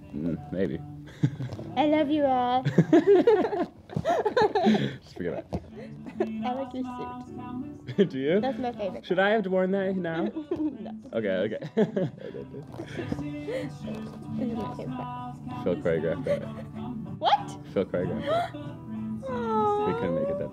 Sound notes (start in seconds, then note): 1.1 laughs; 2.6 laugh